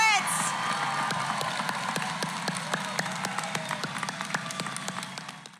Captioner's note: applause